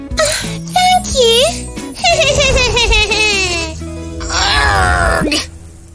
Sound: evil laughter

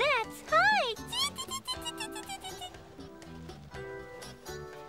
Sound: giggling

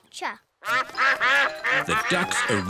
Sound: quacking

